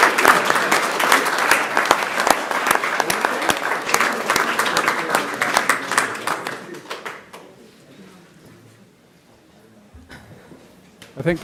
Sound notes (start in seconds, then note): 0.0 applause; 1.4 laughter